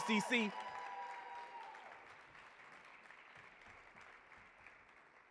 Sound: audience cheering and applauding

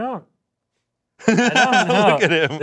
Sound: laughing

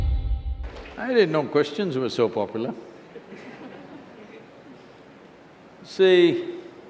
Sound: laughter

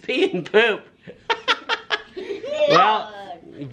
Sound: laughs

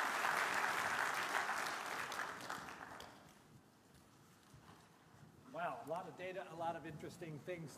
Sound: applause

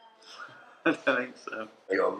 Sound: laughs

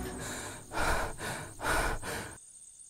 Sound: panting

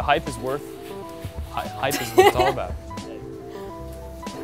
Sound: laughs

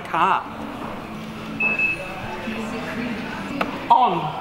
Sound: beeps

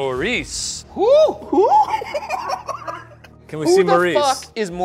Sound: laughs

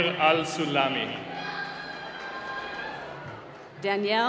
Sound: cheering

